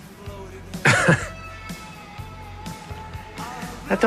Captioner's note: laughs